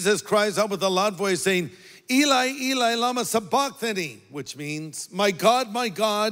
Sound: speaks in foreign language

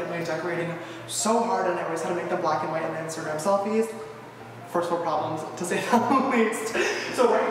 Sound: giggles

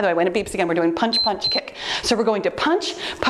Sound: timer beeps

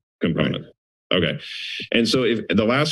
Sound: inhales

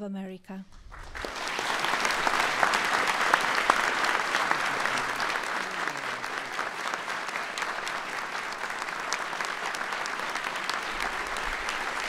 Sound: applause

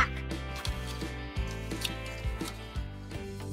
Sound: crunch

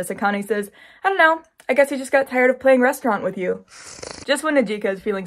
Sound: slurping noise

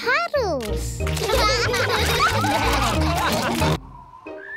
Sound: all laugh

